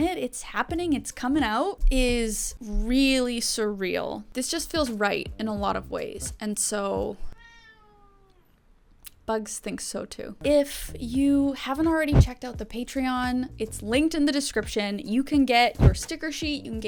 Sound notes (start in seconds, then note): 7.3 cat meows